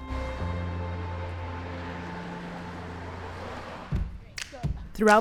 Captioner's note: cars passing; snappy music